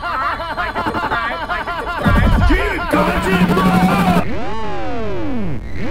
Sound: laughing; squawks

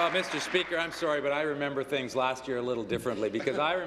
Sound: applause

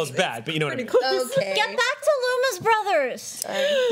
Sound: gasps

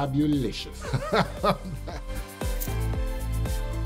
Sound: laughs

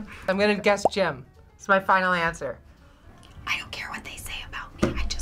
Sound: Pam, whispers

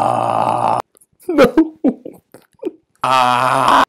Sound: indistinct crying

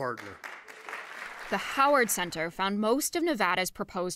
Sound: applause

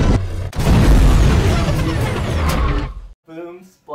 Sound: explosion blasts

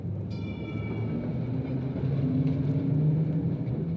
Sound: bell ringing

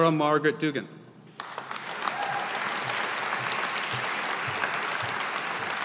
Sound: audience applauding

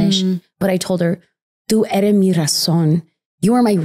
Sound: speaking in a foreign language

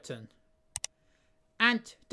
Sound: click sound

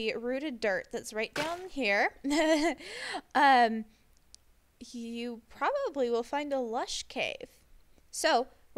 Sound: hits grass and laughs

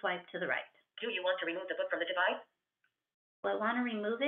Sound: VoiceOver voice

